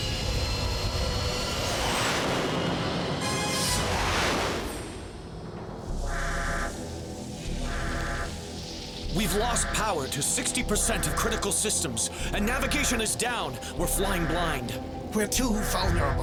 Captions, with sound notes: (JET RUMBLES AS IT MOVES FORWARD) (JET ROARS PAST) (SYSTEM ALARM BUZZES) WE'VE LOST POWER TO 60 PERCENT OF CRITICAL SYSTEMS AND NAVIGATION IS DOWN. WE'RE FLYING BLIND.